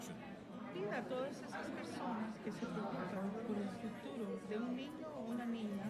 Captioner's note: speaking foreign language